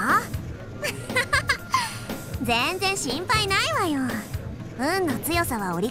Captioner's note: laugh